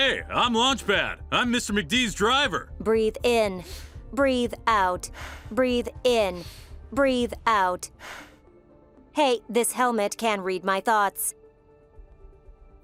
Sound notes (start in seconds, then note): 3.7 inhales; 5.1 exhales; 7.9 inhales